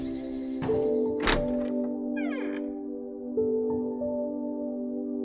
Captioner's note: door opening